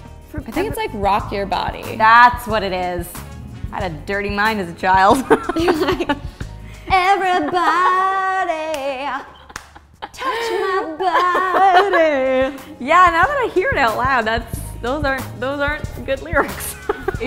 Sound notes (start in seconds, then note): 5.1 both laugh; 11.3 laughs